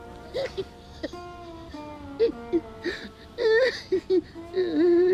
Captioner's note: Lenny chuckling